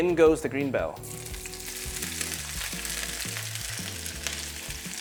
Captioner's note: sizzling sound